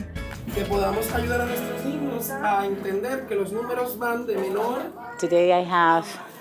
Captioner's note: teacher speaking Spanish